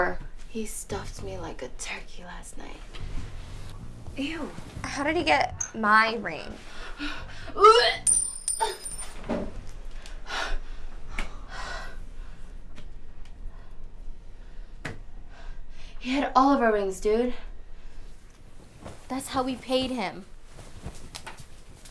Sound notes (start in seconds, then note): 7.1 Gloria gagging; 7.9 a ring bouncing